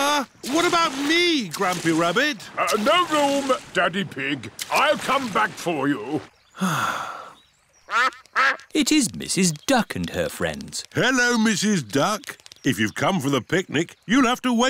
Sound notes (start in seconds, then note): 6.5 sighs; 7.9 quacking